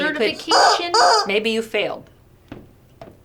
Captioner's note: toy squeaking